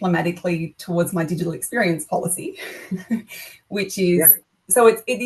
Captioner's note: laughs